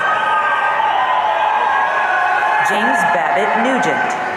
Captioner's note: audience cheering